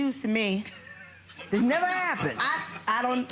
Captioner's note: spectators laughing